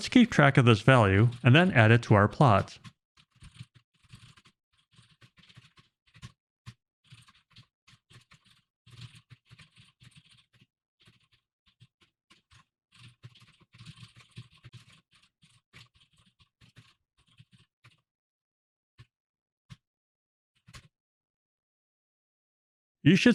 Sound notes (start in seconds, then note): 9.4 typing sounds